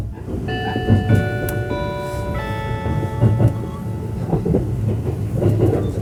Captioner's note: E257 series 4-beat chime is playing